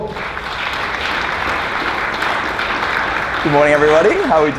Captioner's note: applause